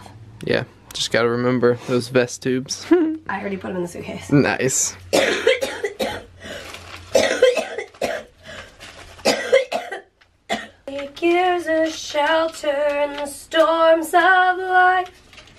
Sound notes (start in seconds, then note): 5.1 coughing; 10.9 singing